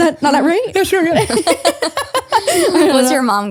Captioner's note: everyone laughs